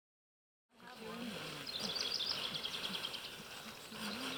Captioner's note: birds chirping